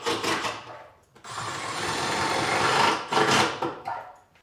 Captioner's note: drill whirring